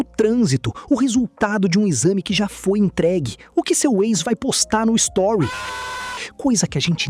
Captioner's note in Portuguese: grito